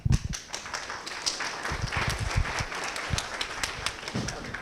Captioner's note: students applauding